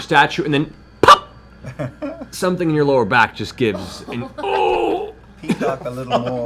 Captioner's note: groans